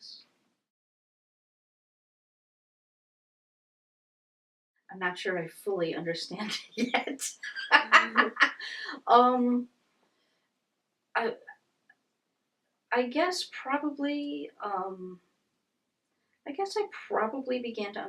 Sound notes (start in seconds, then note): 9.9 laughs